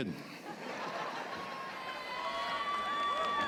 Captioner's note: laughter